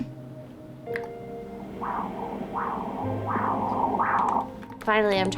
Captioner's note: heart beating